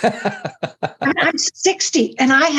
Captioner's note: laughing